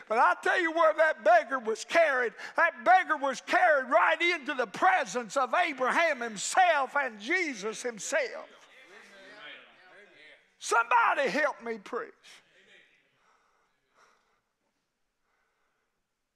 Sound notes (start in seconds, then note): 8.8 congregation shouts agreement